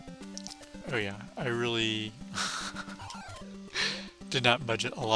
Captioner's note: laughs